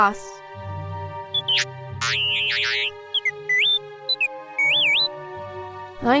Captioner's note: t3-m4 beeps